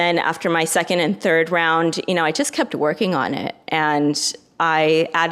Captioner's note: none